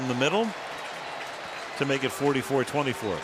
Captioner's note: cheering